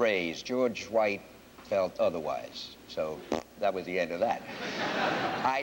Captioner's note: laughter